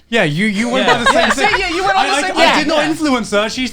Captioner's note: crowd mumbling